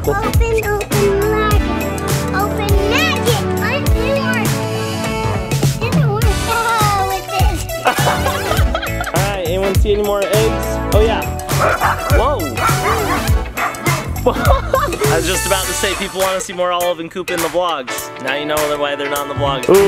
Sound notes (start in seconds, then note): 7.5 laughs; 14.4 laughs